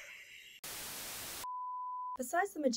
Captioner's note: tv static; beep